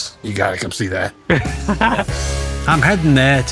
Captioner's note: laughs